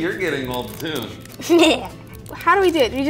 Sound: laughs

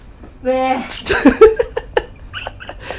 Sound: giggles

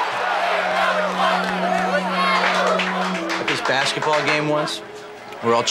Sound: crowd Cheering

